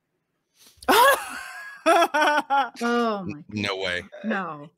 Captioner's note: laughs